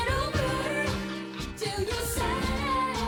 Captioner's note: none